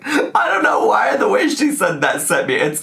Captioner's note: laughing